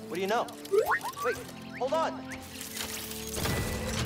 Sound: excited whistle

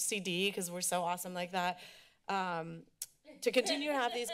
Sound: laughter

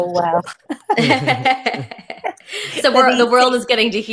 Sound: group laughing

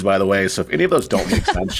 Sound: laughing

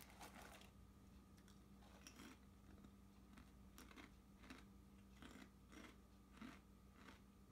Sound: crunching chips

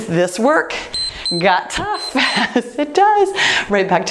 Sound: timer beeps

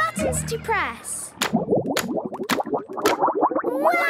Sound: bubbling

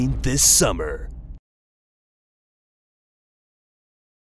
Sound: silence

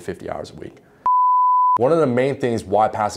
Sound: beeping

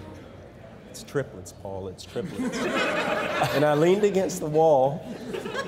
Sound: crowd laughing

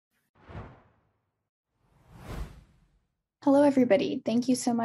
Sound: whoosh

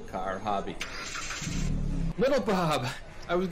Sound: car engine drones

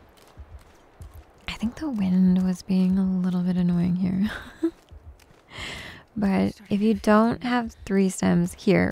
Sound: giggles

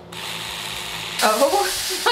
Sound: cleaning brush whirring

